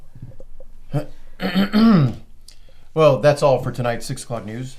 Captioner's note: clears throat